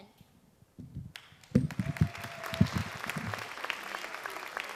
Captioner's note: audience applauds